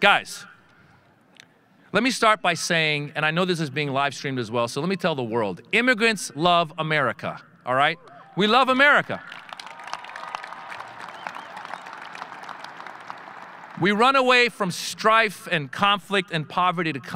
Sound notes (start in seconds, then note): 9.3 audience cheering